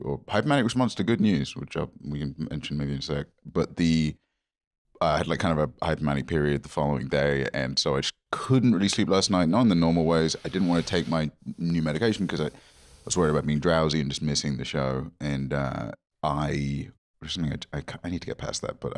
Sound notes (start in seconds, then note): none